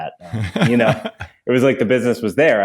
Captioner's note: laughs